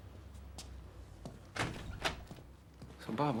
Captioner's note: door opens